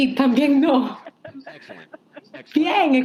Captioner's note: crowd laughing